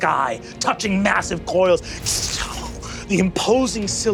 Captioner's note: mimics lightning sparking